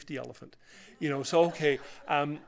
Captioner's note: laughter